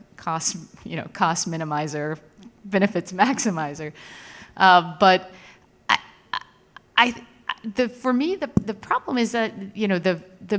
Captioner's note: laughs